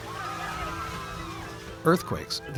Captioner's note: screaming